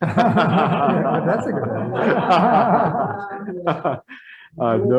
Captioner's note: people laugh